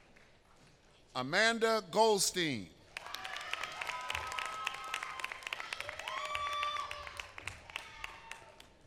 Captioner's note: applause